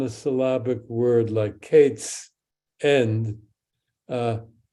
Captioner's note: speaks in Hebrew